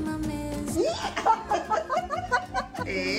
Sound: laughs

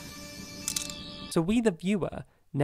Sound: sonic screwdriver noises

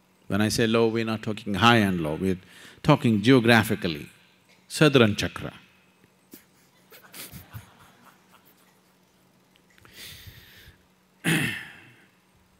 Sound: laughter

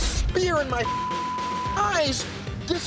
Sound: beep

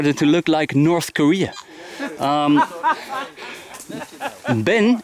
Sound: laughing

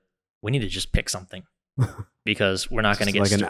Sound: chuckles

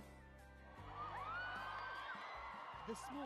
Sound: crowd cheering; voiceover

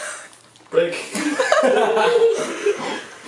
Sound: laughing

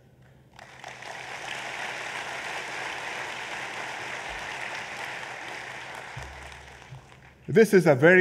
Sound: applause

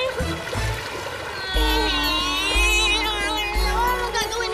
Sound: both crying

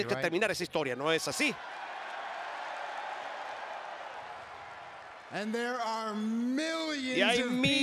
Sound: applause

